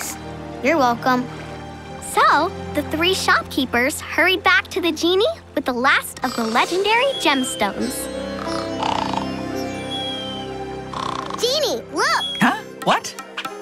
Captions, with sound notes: You're welcome. So, the three shopkeepers hurried back to the genie with the last of the legendary gemstones. [snoring] Genie, look! Huh? What?